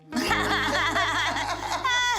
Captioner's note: laughter